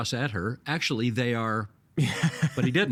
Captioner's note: laughing